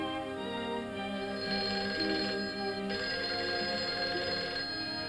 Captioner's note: phone rings